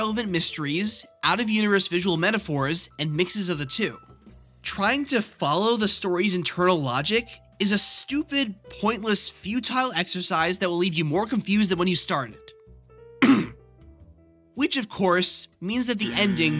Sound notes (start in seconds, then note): 13.2 ahem